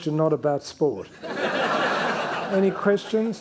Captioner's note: attendees laughing